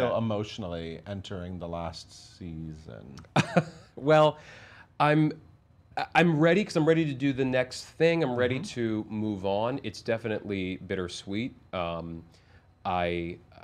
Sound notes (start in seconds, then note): 3.2 laughs